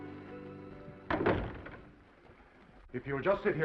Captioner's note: door latches